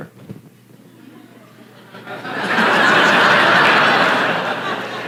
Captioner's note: La audiencia se ríe